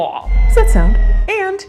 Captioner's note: air whistling